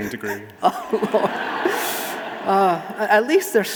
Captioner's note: audience laughing